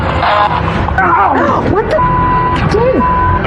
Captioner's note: gaspsps